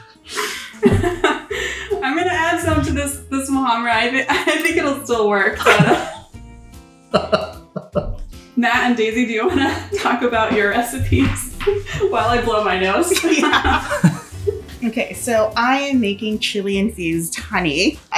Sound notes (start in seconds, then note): 0.8 laughing; 7.1 laughing; 11.5 laughing